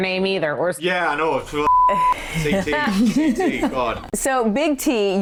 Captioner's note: beep